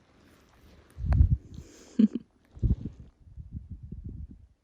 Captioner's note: wind blows; giggles